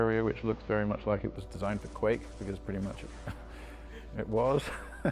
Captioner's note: laughing